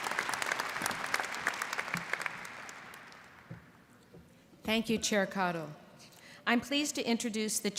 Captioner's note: applause